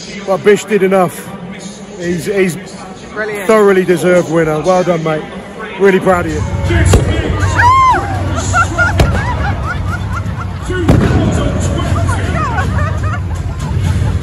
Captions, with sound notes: But Bish did enough. He's a thoroughly deserved winner. Well done mate. Really proud of you. (loud bang) (screams) Oh my god!